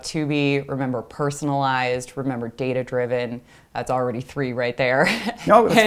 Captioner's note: laugh